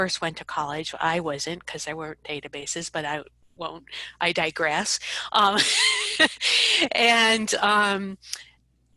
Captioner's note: laughs